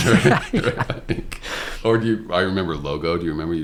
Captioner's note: laughter